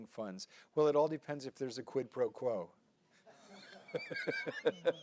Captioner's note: laughs